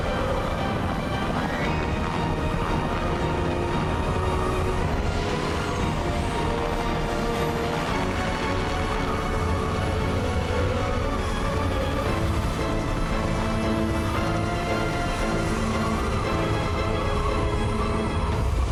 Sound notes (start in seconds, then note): 4.1 lightning storm